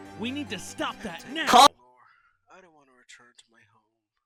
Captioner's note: sits in silence